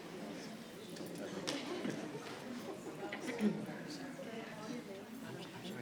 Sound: soft congratulatory chatter rings

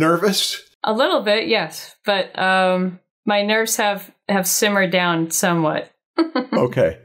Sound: chuckles

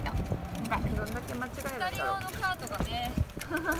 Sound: laughs

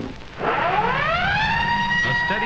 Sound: siren sound

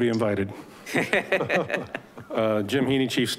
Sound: Board members laugh

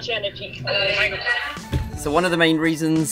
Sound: intercom announcements

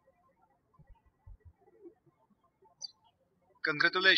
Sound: birds chirping

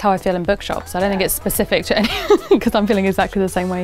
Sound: laughing

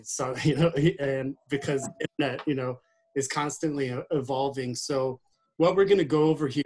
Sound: laughing

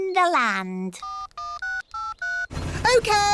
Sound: dialing

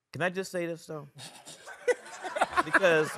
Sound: laughing

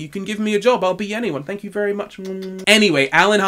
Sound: kisses

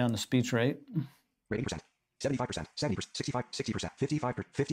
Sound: computer reads fast

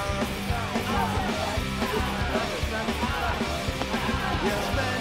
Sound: crowd chattering

